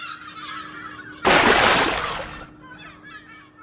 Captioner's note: gulls Calling; big Splash!